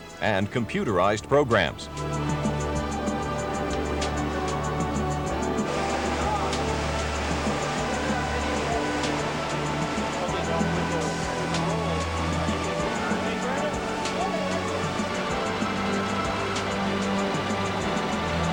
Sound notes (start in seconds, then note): 2.9 engines runnnig